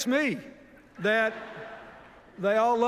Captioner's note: laughter